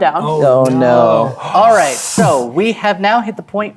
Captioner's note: gasps and imitates explosion